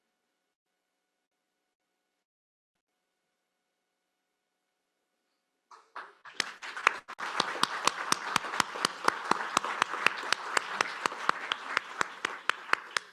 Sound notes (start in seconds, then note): 5.7 applause